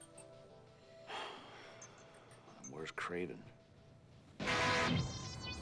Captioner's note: puffs